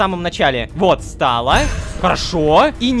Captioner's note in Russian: Страшный звук